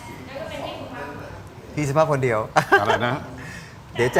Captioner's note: laughter